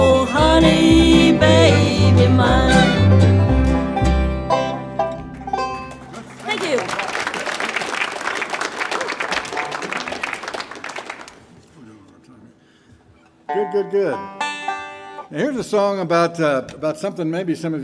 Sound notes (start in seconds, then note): 7.6 audience applauding; 13.3 banjo tuning